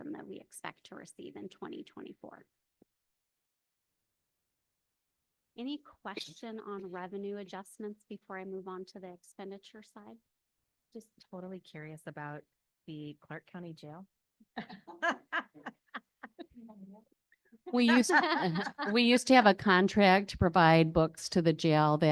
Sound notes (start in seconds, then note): 14.7 panelists laughing